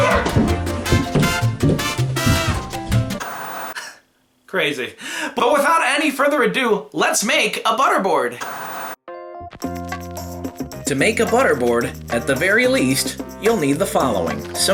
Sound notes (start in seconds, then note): 0.0 salsa music; 0.8 thud; 3.2 static; 8.4 static